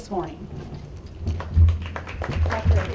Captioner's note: applause